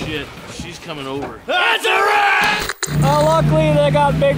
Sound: static noise

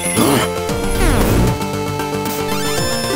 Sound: loss of life-points tone

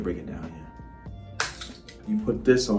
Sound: glass breaking

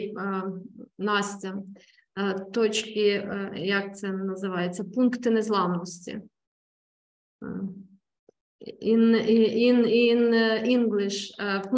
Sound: speaking ukranian

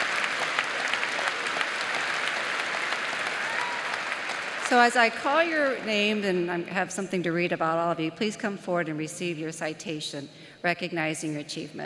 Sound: applause

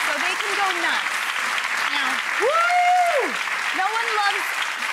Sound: audience applauds

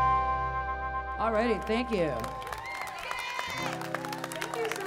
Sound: audience clapping

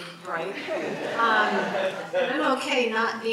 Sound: audience laughs

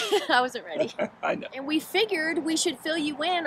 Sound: laughs

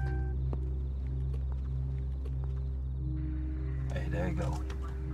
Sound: soft music; foot stamping

